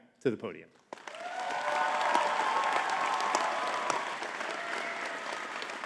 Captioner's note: audience cheering and clapping